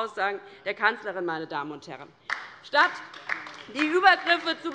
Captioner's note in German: Beifall bei der LINKEN